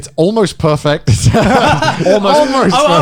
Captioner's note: laughs